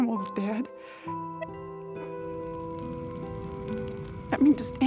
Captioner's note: fire crackling